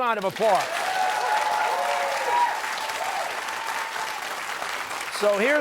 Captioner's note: cheers and applause